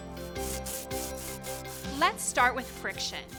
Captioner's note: surface scraping